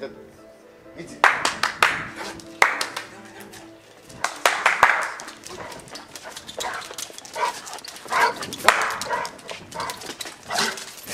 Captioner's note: clapping hands